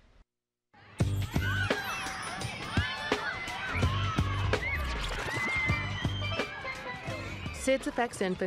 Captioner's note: children playing